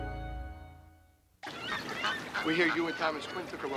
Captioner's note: birds squawking